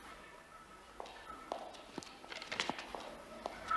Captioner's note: footsteps approaching